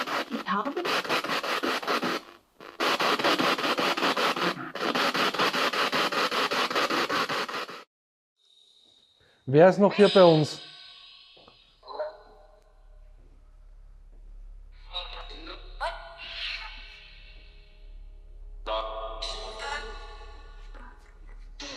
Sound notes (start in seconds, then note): 2.6 radio noise from the spirit box